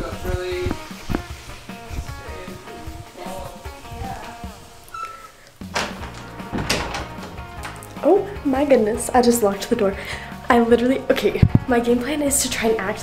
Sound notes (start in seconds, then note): 1.0 distant talking